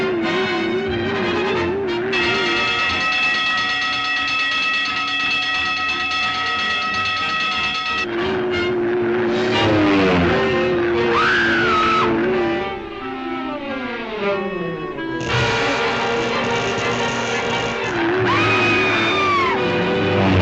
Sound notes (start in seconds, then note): 2.2 alarm dinging; 8.6 dramatic music; 8.6 machine whirring; 11.0 Lois screams; 15.2 electricity crackling; 15.5 dramatic music; 18.0 Lois screams